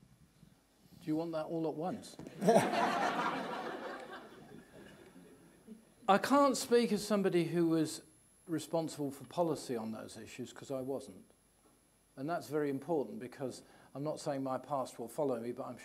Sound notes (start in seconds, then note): 2.4 audience laughing